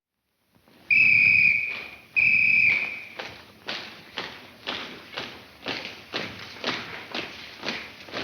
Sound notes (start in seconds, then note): 1.6 footsteps marching in rhythm; 2.1 whistle tweets